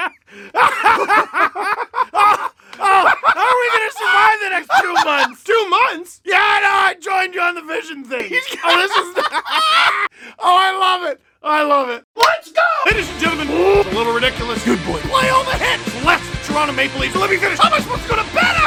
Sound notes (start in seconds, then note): 4.6 deranged laughter; 8.4 laughter